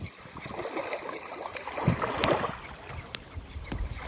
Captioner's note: waves splashing on the beach